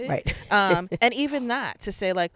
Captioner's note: laughing